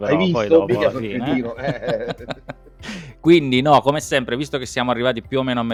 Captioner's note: laughs